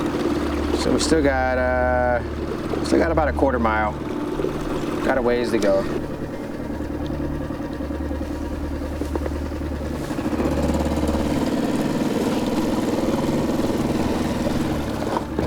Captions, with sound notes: So we still got about a quarter mile. Got a ways to go. (boat engine revving)